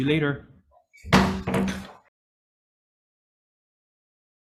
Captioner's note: gavel bangs